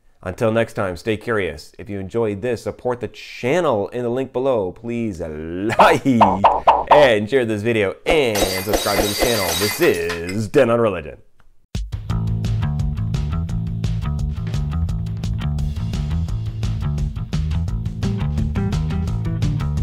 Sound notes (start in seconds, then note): 8.3 glass breaking